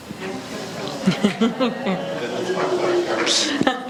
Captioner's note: laughs